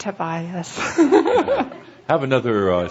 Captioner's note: giggling